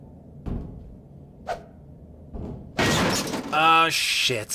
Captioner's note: footsteps on thin metal; whoosh; clang; another clang, water splashes